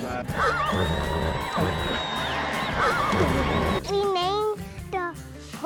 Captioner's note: horse neighing, bucking